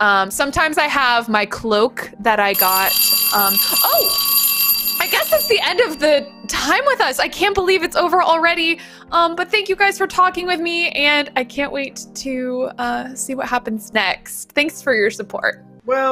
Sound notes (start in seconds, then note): 2.5 alarm clock ringing